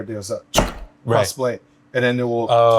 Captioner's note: knife slams